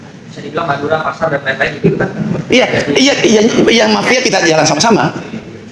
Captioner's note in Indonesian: tertawa